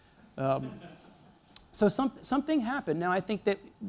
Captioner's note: laughter